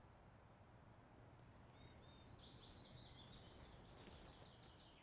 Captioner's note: birds singing